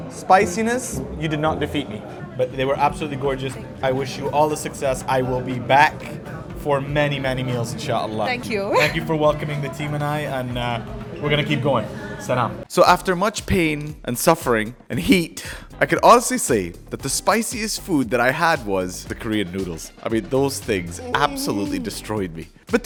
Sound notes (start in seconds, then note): 7.4 speaks Arabic; 11.9 speaks Arabic